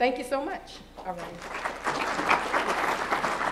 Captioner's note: applause